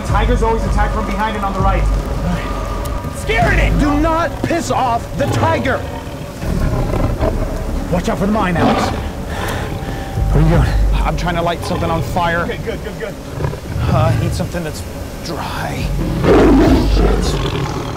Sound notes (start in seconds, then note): 16.1 tiger growls